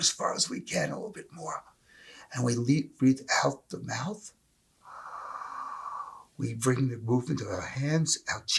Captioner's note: exhale